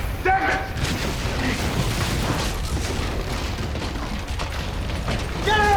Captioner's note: rumbling/Crashing